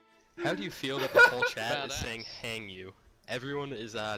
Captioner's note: laughs